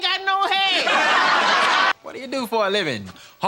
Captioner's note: audience laughing